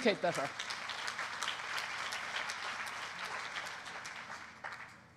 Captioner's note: applause